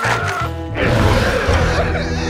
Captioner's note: screaming